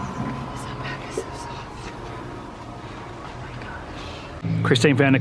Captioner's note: whispering